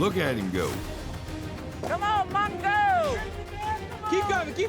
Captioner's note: cowboys shout encouragement